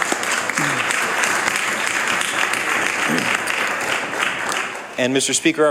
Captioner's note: applause